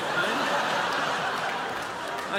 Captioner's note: crowd laughs